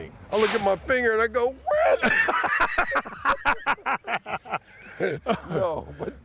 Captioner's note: laughing